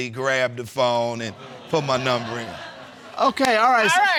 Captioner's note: audience laughing